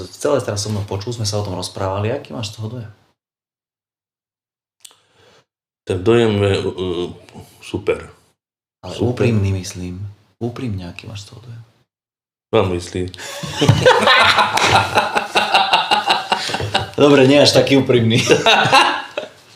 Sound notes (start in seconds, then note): 13.4 laughs